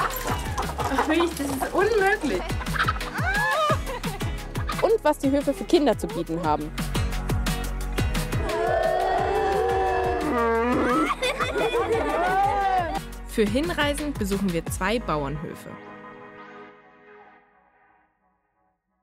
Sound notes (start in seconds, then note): 2.1 laughter; 8.4 children make “moo”; 10.1 cows moo; 11.2 children laugh